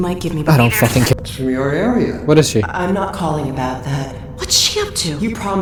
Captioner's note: hl2 babbling